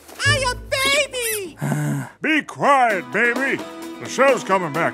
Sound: soundbite of toy squeak

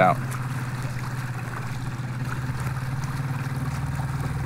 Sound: engine puttering

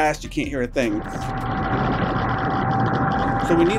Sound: propellor whirring

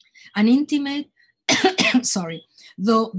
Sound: coughing

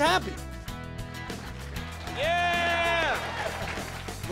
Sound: cheers and applause

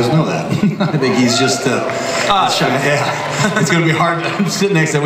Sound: audience cheers

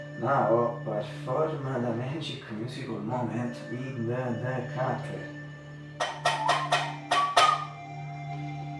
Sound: whistle

